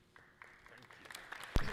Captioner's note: audience clapping loudly